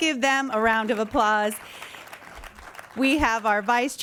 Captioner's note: audience claps